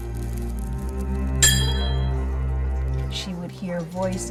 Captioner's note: tense music; hammer clanging